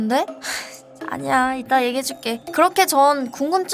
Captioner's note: sigh